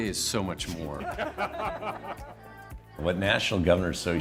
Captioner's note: laughing